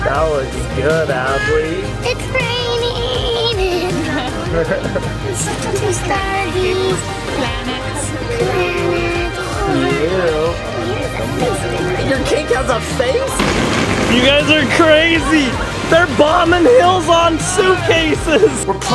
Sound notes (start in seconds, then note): 3.6 chuckles